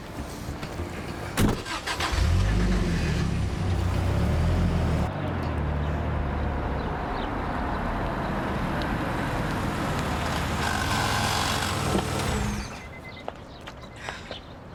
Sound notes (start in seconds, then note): 0.4 car sounds